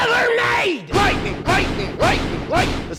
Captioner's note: thunder clapping